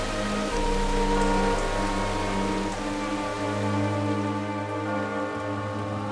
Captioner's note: bell tolling